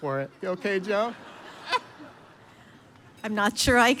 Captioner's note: audience laughs